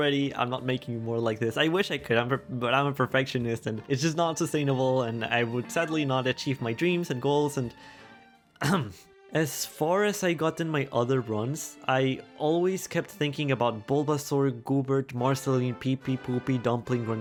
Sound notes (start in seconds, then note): 8.6 ahem